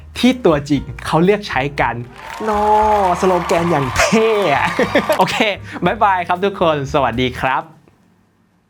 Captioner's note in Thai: เสียงหัวเราะ